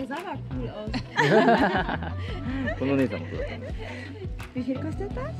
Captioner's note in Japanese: 笑い